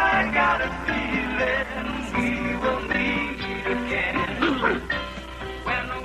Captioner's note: sneezes